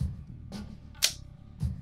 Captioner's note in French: clic